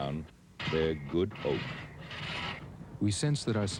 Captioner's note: sawing back and forth by hand